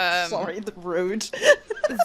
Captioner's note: laughs